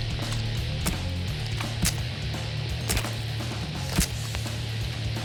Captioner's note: rock music playing; squishing